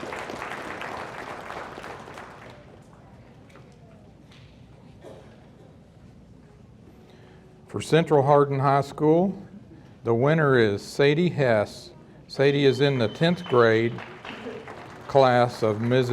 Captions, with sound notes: - It's right there. - For Central Hardin High School the winner is Sadie Hess. Sadie is in (audience member whistling) the 10th grade class of Mrs. Wilson.